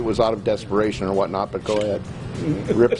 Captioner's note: laughing